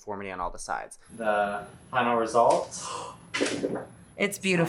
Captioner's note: woman gasps